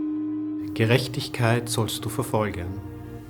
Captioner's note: speaking in German